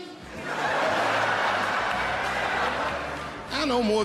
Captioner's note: laughter